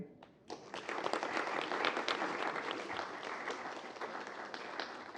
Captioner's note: applause